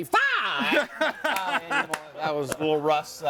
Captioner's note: person laughs